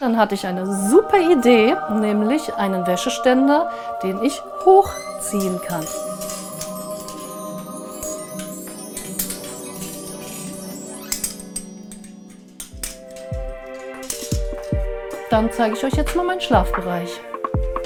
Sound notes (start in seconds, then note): 6.2 magical sounds